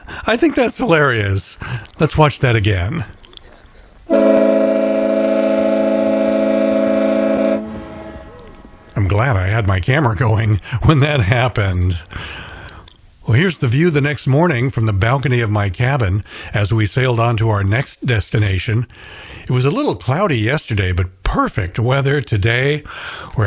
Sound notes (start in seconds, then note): 4.1 loud horn